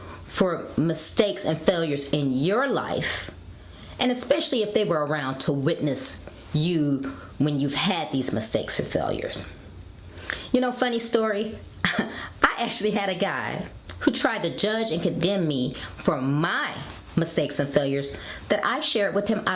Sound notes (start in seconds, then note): 11.8 chuckles